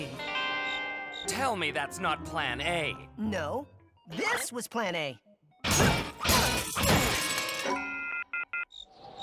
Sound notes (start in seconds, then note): 5.7 smashing; 8.6 crickets chirp